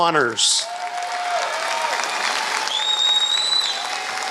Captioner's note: applause